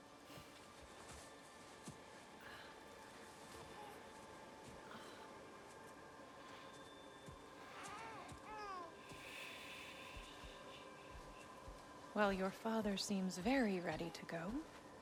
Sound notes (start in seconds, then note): 7.7 baby crying